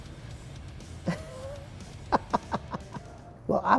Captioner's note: laughs